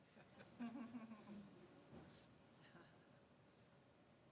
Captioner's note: laughing